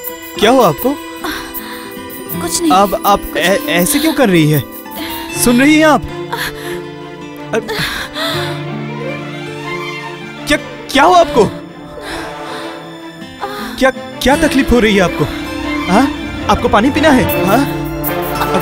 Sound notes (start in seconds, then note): 6.3 groans